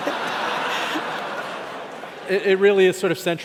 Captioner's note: laughing